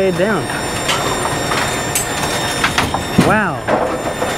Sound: machine whirring; pins clattering

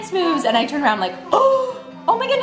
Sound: gasping

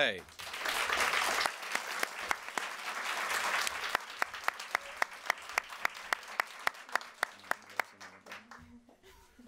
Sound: applause

